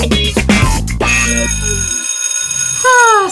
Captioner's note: funk music; school bell ringing